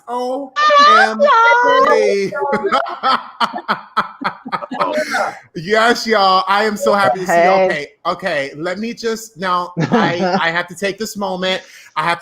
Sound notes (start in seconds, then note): 2.8 laughing